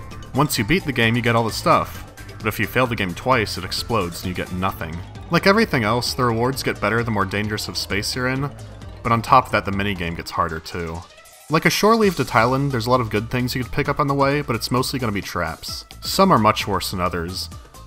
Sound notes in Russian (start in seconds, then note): none